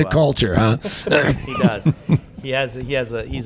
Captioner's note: laughter